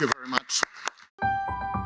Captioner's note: applause; audio logo